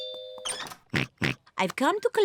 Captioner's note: oinks